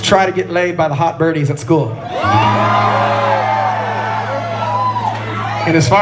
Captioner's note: laughter from Crowd